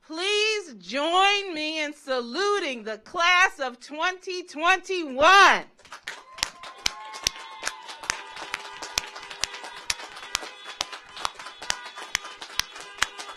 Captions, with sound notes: please join me in saluting the Class of 2021. (audience cheers) (car horns honking)